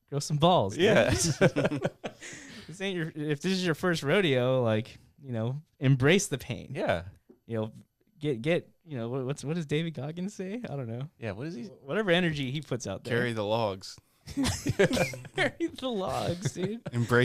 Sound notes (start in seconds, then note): 0.8 laughing; 14.3 laughing